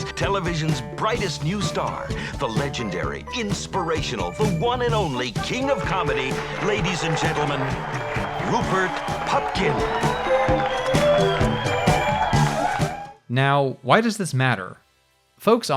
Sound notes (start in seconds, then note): 10.0 crowd cheers; 10.0 music swells